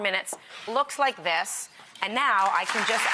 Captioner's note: audience applauds